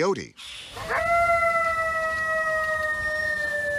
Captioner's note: coyote howls